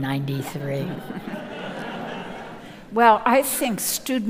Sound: audience laughing

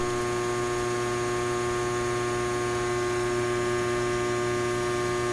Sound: transformer humming continues

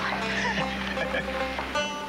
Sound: chuckles

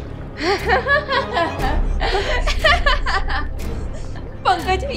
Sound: laughing

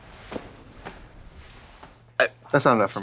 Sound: arm patting

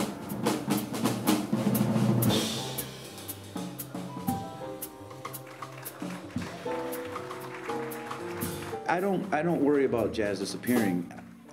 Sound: applause

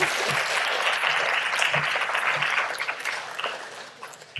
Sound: audience clapping

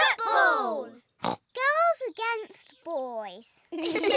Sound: snorts; all laugh

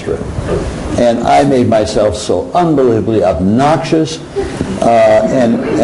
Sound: crowd laughing

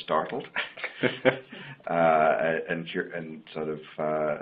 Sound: laughing

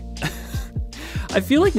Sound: laughs

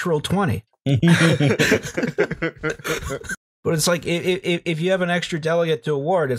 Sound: laughter

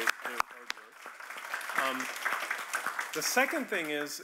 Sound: audience applauding

